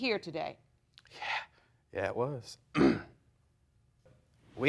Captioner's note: clearing throat